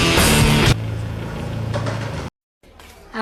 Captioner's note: ambient and skate noises